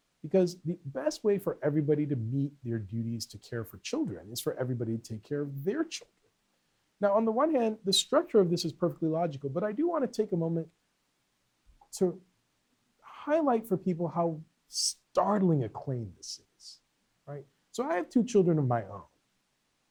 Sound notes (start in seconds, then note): none